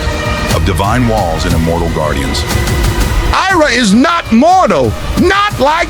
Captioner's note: whispered